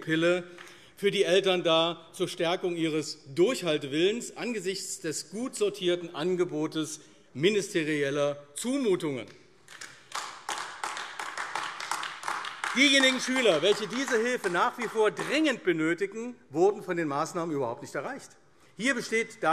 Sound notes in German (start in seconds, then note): 9.6 Beifall AfD